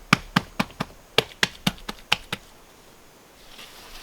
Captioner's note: patting